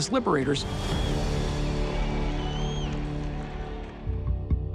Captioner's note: spectators cheering; suspenseful music